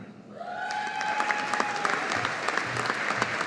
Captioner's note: audience applauding